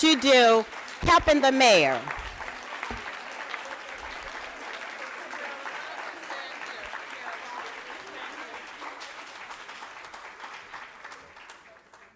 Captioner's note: applause